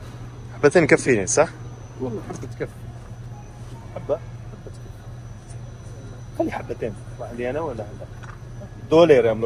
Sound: speaking Arabic

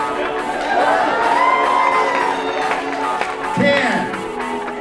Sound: audience cheering

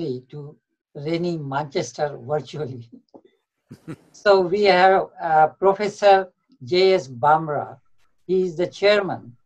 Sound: Sadhguru laughs

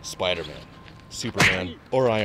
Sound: none

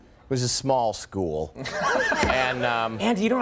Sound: audience laughs

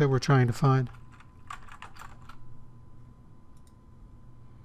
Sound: typing

